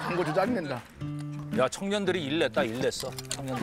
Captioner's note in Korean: 웃음소리